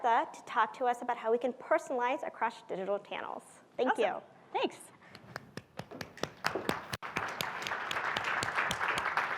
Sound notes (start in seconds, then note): 5.9 applause